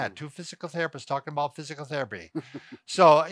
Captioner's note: chuckles